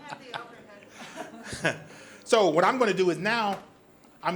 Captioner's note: audience laughs; laughs